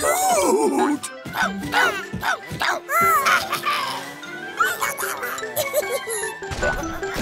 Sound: squeaking

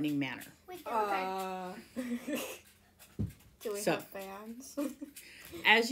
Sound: laughs

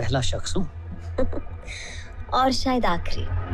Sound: chuckles

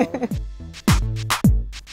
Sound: laughs

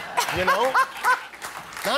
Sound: laughter

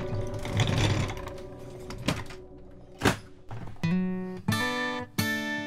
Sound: gurney being loaded into ambulance

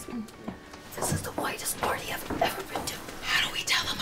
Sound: whispered

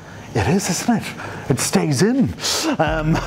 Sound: laughs

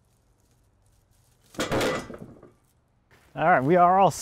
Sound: loud bang

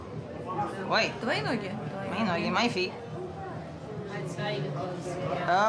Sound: speaking Russian

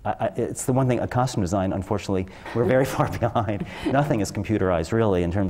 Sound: laugh

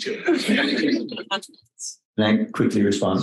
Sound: all laughing

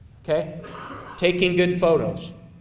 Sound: off screen coughing

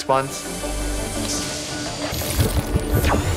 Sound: treasure shimmering

